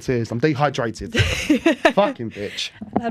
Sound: laughter

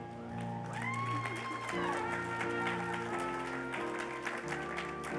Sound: cheers and applause

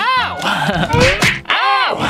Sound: laughs

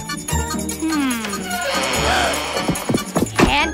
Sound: door creaking

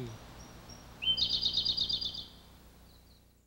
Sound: birds chirping

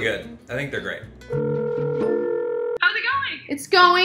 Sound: phone ringing

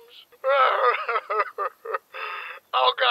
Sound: sobbing

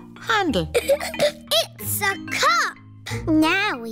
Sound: giggles

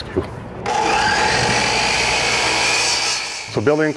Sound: saw buzzes

